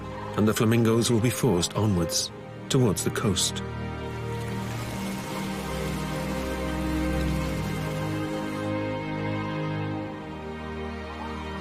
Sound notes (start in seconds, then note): 4.2 water lapping on rocks